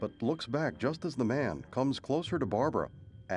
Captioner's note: thunder rumbles